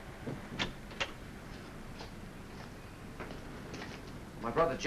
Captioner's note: door opens